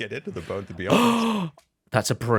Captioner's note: laughs; gasps